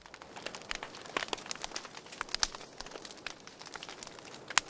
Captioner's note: fire crackling